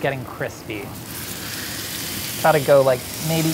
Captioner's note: food sizzles